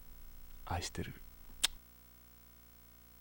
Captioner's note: kiss